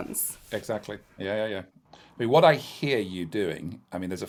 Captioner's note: none